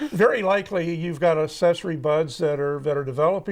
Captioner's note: laughing in the background